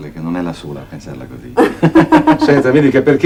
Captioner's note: both laugh